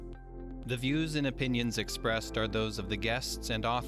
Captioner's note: voiceover